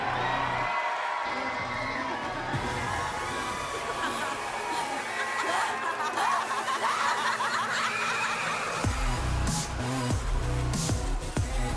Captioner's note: cheers and applause